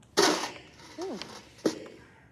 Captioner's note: bucket banging